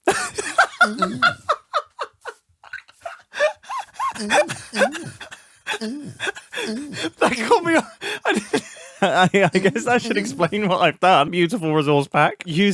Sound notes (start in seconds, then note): 0.3 "eugh" noise repeatedly; 5.7 "eugh"s continue; 6.6 laughs harder